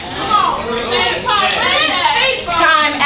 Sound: audience cheers

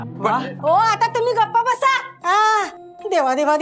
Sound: speaking in Marathi

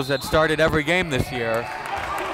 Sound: whistle blows; applauding

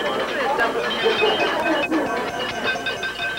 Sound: glasses clinking

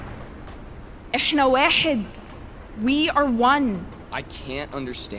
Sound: in Arabic

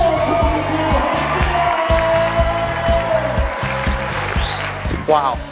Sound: audience cheers

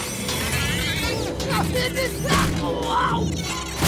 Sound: grunting; thudding

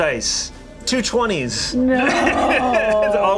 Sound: laughs

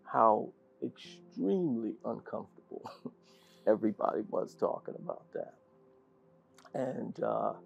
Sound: laugh

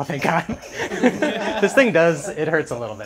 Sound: laughs

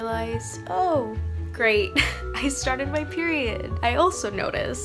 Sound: chuckles

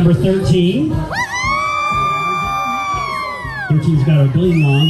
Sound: cheering

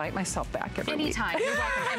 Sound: laughter

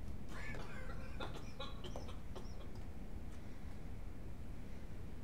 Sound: Blair coughing distantly

